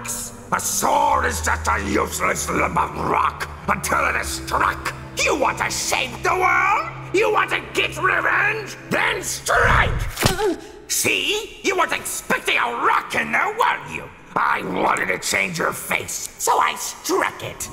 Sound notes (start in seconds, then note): 9.5 hurt noise